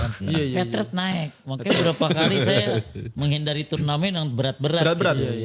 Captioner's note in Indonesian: tertawa